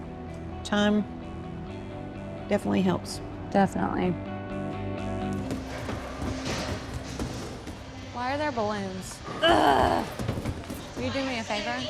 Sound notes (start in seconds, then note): 9.4 Maci groans